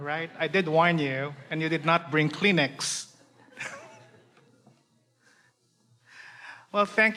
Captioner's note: laughs